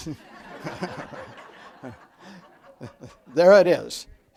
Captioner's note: audience laughs